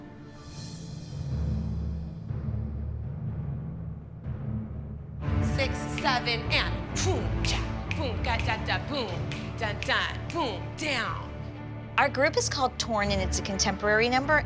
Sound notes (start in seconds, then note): 6.9 mouthing beats